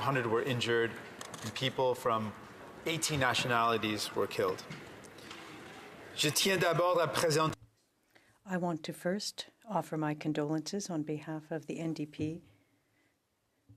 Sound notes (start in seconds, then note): 10.2 speaking French